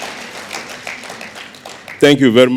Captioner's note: applause